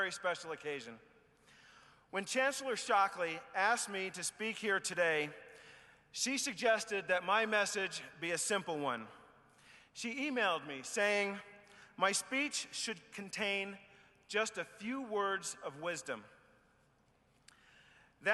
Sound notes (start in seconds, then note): none